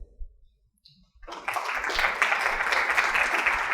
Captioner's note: applause